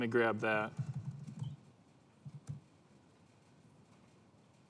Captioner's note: typing sound